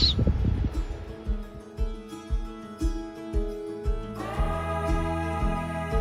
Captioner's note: gentle music; owl shrieks; harmonizing vocals; gentle music